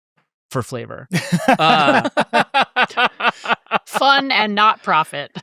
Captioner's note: laugh